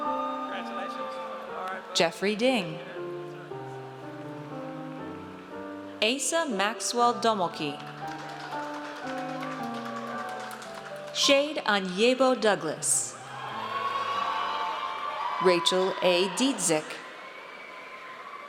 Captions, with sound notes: Jeffrey Ding. Asa Maxwell Domolky. (audience applauds) Shade Aniebo Douglas. (audience cheers) Rachel A. Dziedzic.